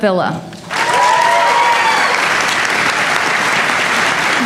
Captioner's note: applause